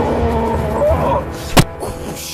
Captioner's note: thunk